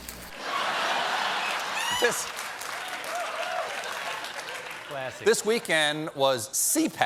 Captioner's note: sizzling sounds; laughter; applause